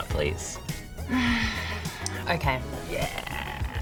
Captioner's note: sighs